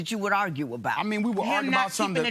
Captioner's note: none